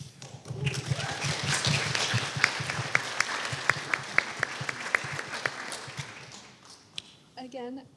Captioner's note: applause